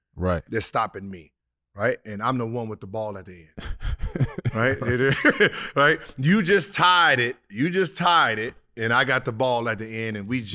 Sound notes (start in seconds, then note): 3.6 laugh